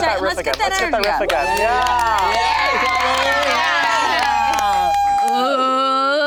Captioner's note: group applauding